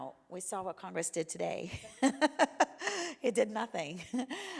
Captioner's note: laughs